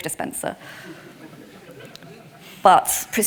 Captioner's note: attendees applauding